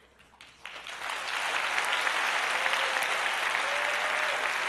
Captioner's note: applause